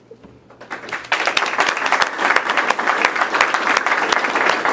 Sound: participants clapping

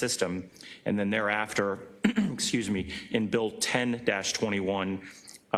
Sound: cough

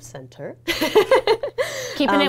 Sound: laughs

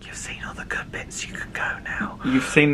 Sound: whispers

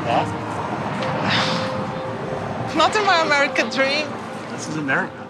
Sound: sighs

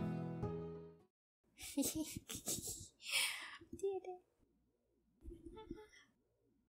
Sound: giggling

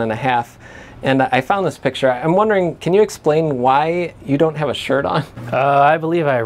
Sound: laughing

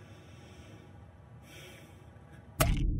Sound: exhales

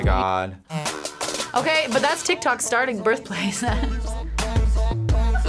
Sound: laughs

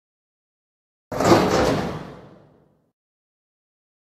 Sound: sound of door

